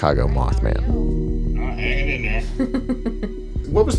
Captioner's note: laughs